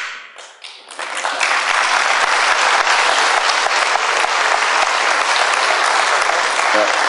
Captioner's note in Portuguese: Aplausos